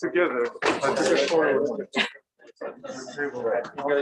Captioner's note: indistinct conversation